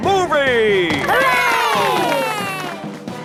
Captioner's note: heroic music; applause